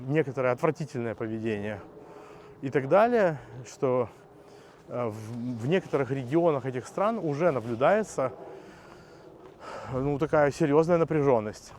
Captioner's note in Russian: вздыхает